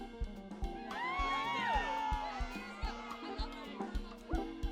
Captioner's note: people cheering